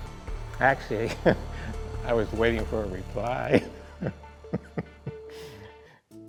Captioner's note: chuckles